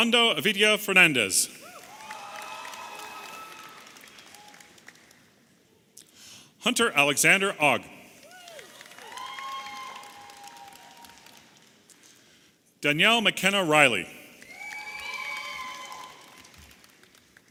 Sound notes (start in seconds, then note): 1.6 audience applauding and cheering; 11.6 audience cheering